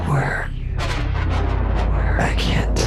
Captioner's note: thunder